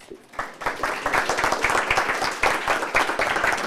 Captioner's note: applause